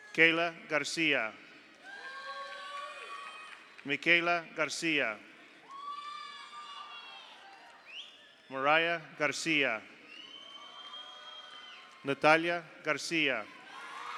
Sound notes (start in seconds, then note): 1.8 audience cheers; 2.3 audience applauds; 5.6 audience applauds; 5.7 audience cheers; 10.3 audience cheers; 10.3 audience applauds; 13.1 audience cheers; 13.9 audience applauds